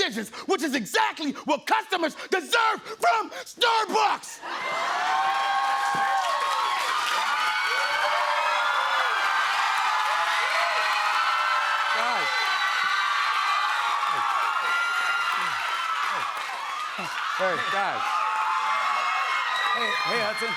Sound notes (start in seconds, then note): 4.8 cheers and applause; 13.2 cheers and applause continue